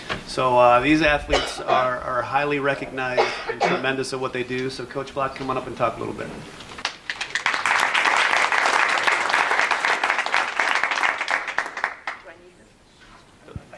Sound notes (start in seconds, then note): 6.8 audience claps